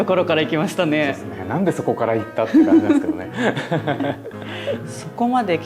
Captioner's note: laughs